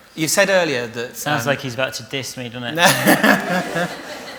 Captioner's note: laughter